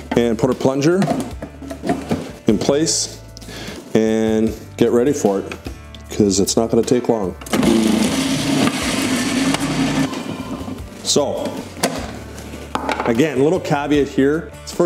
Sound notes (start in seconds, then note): 7.5 blender rumbling